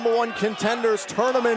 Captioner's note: fans chanting